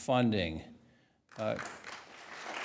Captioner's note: applause